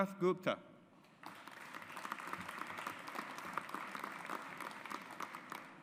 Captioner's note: audience applauds